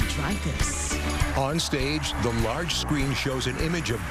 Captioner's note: cheering and applause